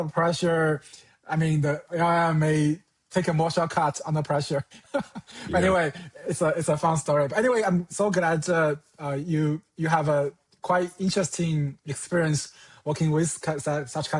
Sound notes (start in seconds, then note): 4.6 chuckles